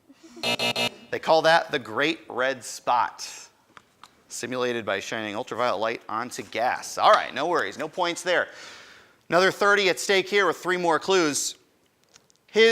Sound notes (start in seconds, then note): 0.4 end time buzzer rings